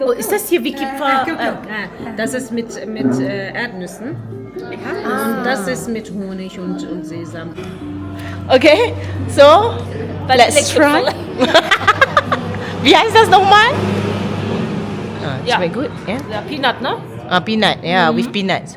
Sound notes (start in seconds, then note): 0.0 speaking German; 10.7 speaking German; 11.0 laugh